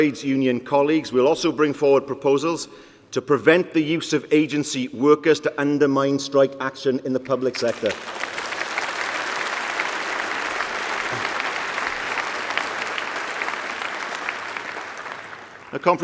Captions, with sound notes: Conference, we will go further, by working with our Trade Union colleagues we will also bring forward proposals to prevent the use of agency workers to undermine strike action in the public sector. (Applause)